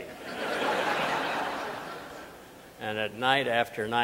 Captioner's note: audience laughing